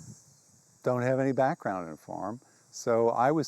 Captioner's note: insects buzz